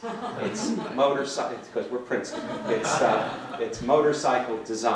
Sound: laughter

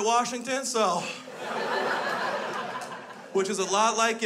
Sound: crowd laughs

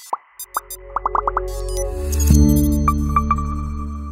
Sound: musical popping

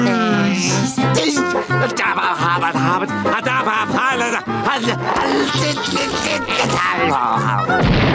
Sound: stammering

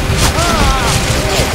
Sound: Spy screams in pain

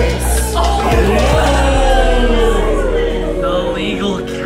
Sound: crowd cheering

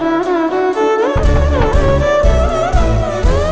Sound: knocking on door

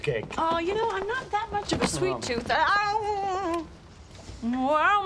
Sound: moans

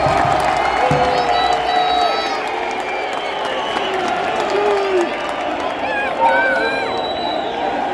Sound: clap

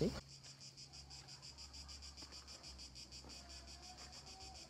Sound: crickets chirping

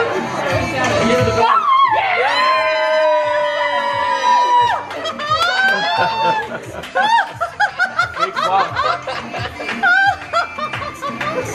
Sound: everyone cheers

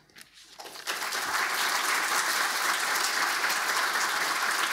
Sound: audience applauding

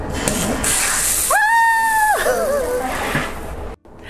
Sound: screaming

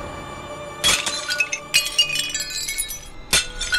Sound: pot clatters

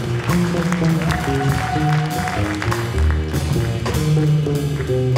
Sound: audience applauding; audience members cheering; bright jazz music

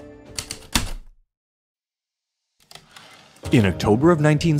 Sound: typewriter keystrokes, return slide

